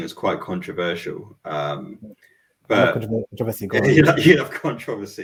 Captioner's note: laughing